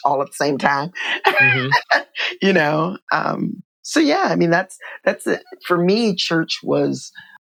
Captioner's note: laughter